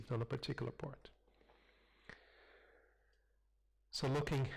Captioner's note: pause